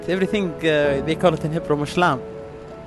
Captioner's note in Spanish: Hebreo